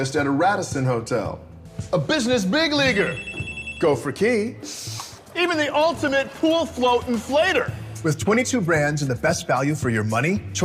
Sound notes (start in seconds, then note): 2.8 phone ringing